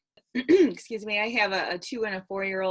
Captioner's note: clears throat